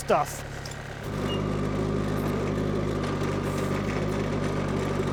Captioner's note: skid-steer whirring